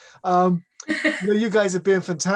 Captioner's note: laughs